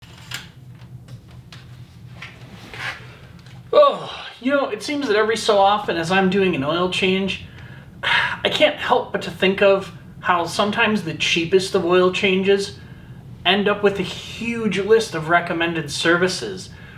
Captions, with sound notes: *Groan* you know, it seems that every so often as I'm doing an oil change I can't help but to think of how sometimes the cheapest of oil changes end up with a huge list of recommended services.